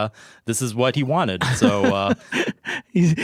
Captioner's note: laughing